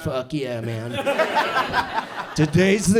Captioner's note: audience chuckles